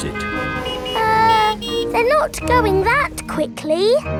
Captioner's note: horns honking